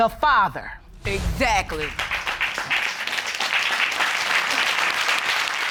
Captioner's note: audience applauding